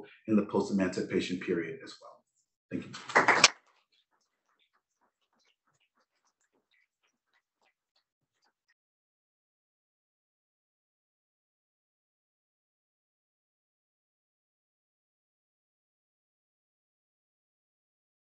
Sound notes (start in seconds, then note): 2.8 applause